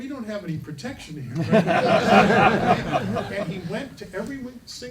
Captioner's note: laughing